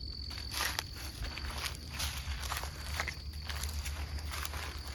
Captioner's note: feet crunching